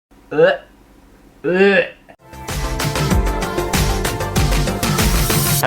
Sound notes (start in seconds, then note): 1.4 gagging; 2.2 intro Music